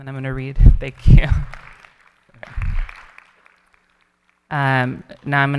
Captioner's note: audience applauding